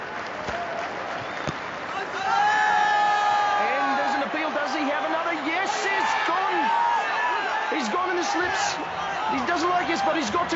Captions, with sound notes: (thunks) (shouting) And there's an appeal! Does he have another? Yes, it's gone! He's gone in the slips. He doesn't like it,